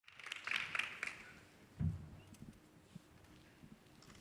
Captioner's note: audience applauding